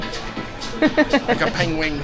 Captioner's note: laughs